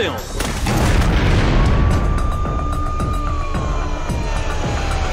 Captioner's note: siren wailing